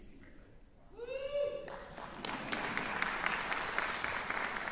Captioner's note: cheering, applause